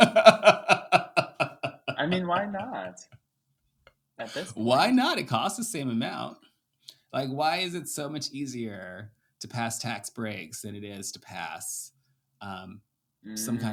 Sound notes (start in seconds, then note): 0.0 laughing